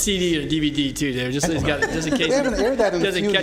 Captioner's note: laughter